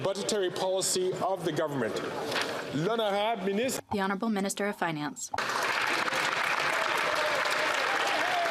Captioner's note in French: voix de l'interprète